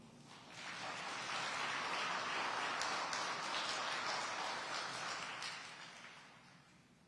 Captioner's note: audience applauding